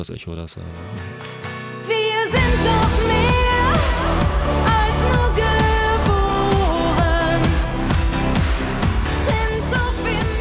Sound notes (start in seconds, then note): 6.6 in German language only